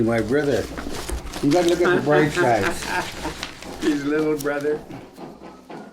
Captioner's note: laughs